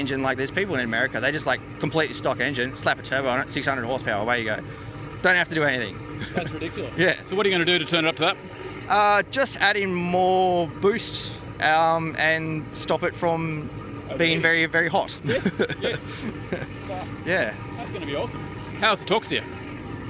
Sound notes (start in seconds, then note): 6.2 chuckles; 15.2 laughs